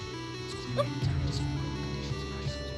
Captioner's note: yelp